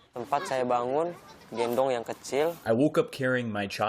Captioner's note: through translator